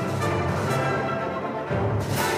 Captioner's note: none